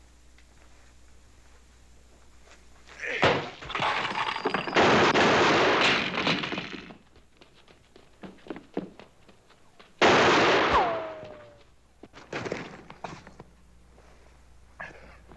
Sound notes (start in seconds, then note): 4.7 gunfire; 10.0 gunshot